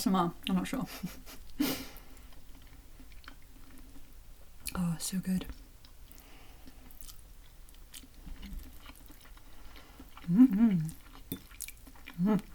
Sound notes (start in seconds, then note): 0.0 nomNomNom; 1.0 chuckle; 8.2 nom Nom